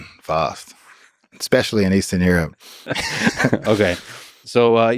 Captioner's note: both laughing